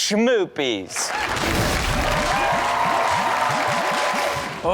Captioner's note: audience cheers